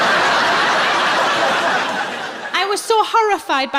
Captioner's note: laughing